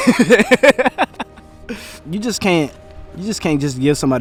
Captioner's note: interviewee laughing